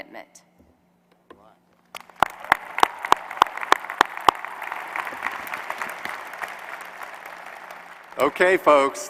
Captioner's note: applause